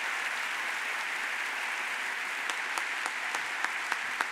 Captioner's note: audience applauds